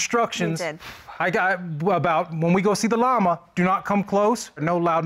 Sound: stammers

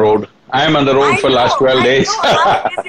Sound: laughter

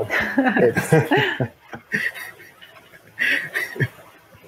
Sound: laughter

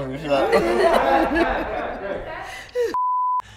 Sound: laughing

